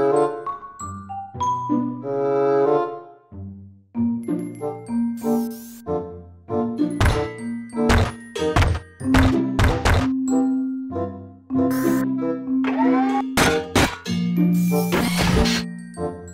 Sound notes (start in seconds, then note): 6.8 stomping; 11.8 whirring, Stomping; 14.6 creaking